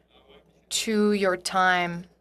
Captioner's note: speaking French